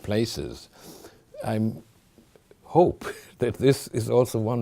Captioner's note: chuckling